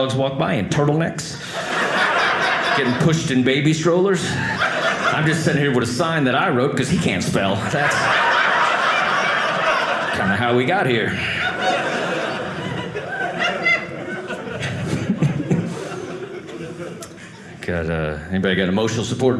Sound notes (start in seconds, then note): 7.8 audience laughing; 11.0 audience laughing